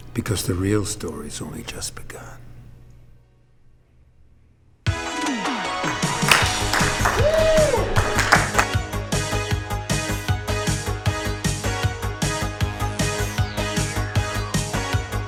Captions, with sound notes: because the real story's only just begun. (cheering) (80s electronic music)